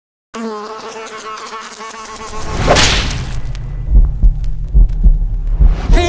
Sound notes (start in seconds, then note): 0.3 fly buzzing; 2.5 fly swatter slapping; 3.8 heart beating